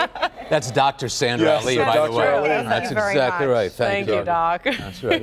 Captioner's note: laughter; laughter